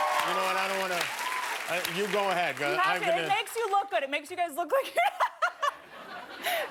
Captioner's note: laughter